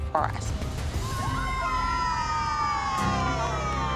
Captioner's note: all cheering